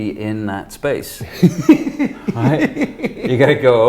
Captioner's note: laughs